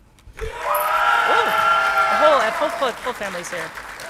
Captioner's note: audience clapping and cheering